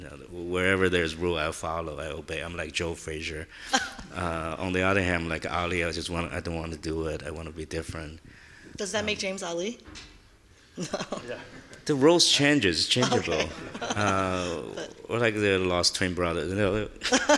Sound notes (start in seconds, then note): 3.7 laughing; 10.8 chuckles; 13.0 laughing; 17.2 laughing